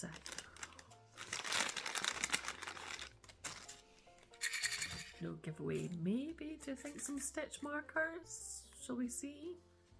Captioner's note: shake